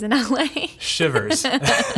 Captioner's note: laughing